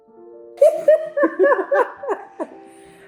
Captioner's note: laughing